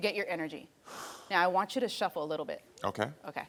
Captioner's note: Karamo blowing